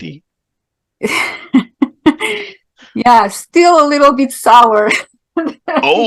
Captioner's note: laughing